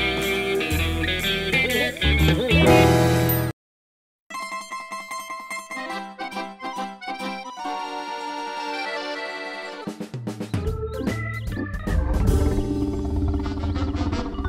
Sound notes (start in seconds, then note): 4.5 classic Italian-style theme; 10.4 upbeat music; 11.9 tummy grumbling